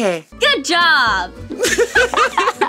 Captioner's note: both laugh